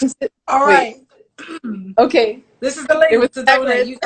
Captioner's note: laughs; clears throat